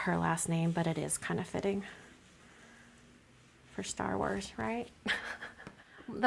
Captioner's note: chuckles